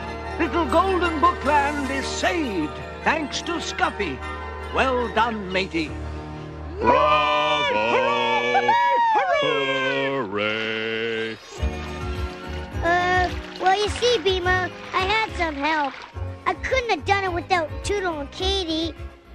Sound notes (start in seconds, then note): 6.8 cheering